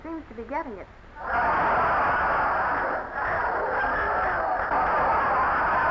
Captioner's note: audience laughing